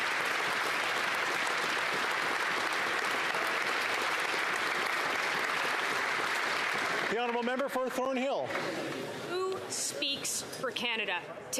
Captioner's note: applause